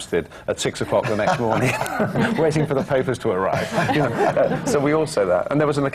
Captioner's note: laughter